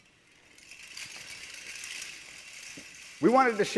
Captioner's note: dress clattering softly